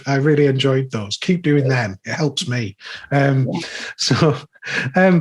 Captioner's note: chuckling